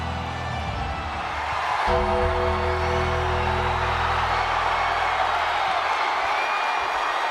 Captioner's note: ominous music continues; ominous music; audience cheers